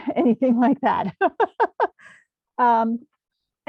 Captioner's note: laughs